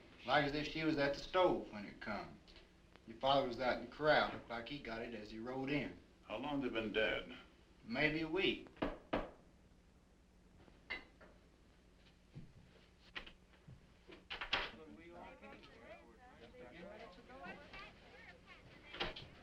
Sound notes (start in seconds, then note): 8.8 door knocking